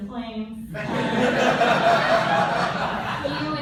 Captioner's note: laughter